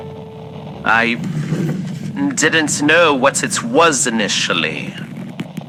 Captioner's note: pulls in chair fx